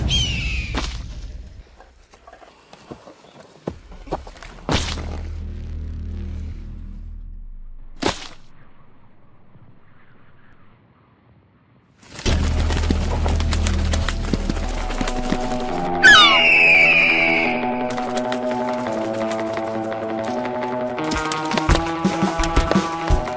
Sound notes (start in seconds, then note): 0.0 gulls squawking; 4.5 flesh squelching; 7.8 body flopping; 12.2 wings flapping; 15.2 gull squawking; 19.0 dramatic music crescendos